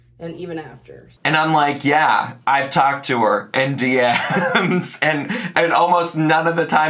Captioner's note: laughs